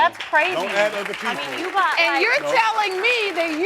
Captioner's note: crowd clapping